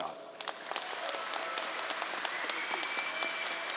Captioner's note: crowd applause